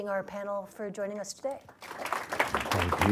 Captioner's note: applause